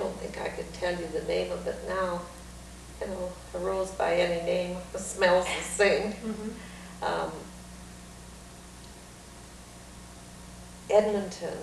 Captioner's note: laughs